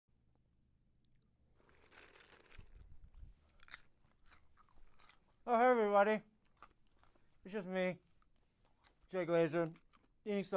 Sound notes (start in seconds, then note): 3.5 chomping